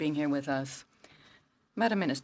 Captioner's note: speaking French